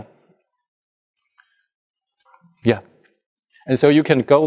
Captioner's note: pause